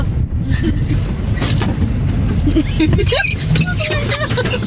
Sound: both laughing

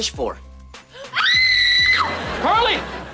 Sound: screaming

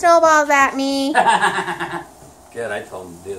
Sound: laughs

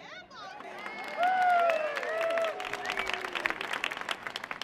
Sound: audience cheering

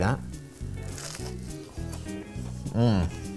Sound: crunching

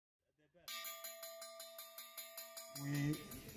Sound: school bell ringing

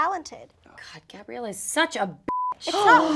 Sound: beeping

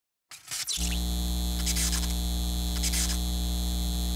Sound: buzzing

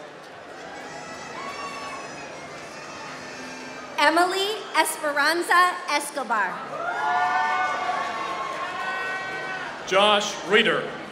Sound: applause

